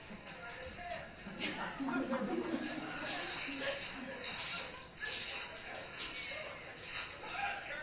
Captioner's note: laughter